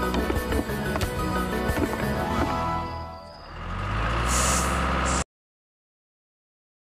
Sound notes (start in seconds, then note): 3.3 engine Running